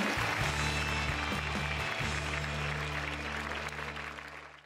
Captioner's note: applause